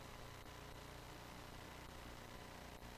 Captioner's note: none